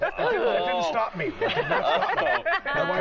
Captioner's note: laughter